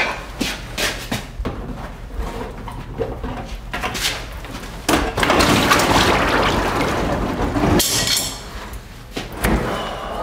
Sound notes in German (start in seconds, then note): 5.7 Schnelles Blubbern